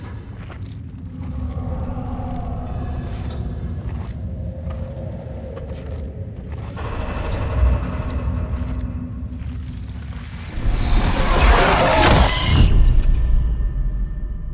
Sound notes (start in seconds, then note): 1.2 heavy breathing; 7.1 metal creaking and groaning